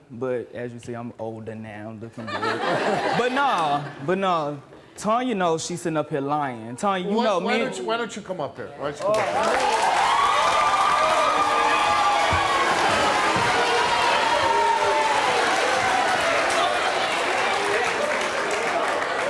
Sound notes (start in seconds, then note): 2.2 audience laughing; 9.3 audience cheering